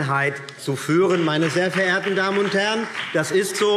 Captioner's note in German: Beifall BÜNDNIS 90/DIE GRÜNEN